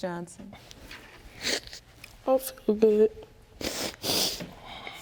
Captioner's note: sniffles